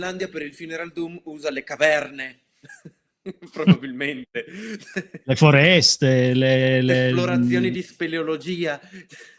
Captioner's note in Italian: risate